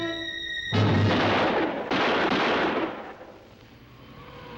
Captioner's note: gun firing